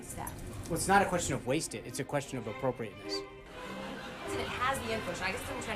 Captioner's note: raucous laugh track